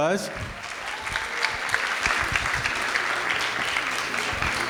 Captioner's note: audience claps